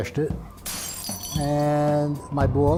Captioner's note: glass breaking